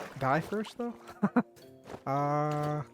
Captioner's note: laughs